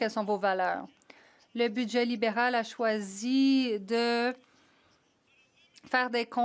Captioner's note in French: voix de l'interprète